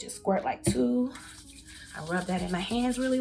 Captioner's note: hands rubbing